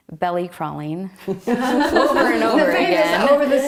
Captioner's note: laughter